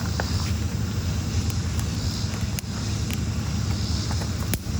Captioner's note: crackling sounds